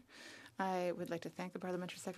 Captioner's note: speaking French